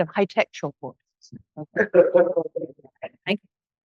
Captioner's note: laughs